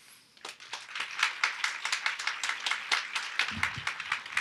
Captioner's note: audience applauds